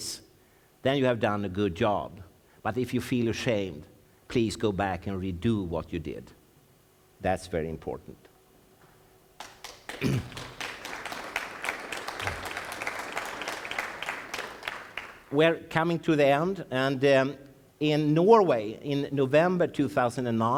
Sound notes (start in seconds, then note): 9.4 applause from the audience , applause from the audience